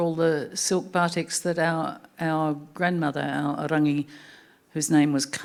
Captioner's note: speaking Anmatyerr